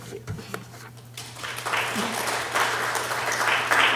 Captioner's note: applause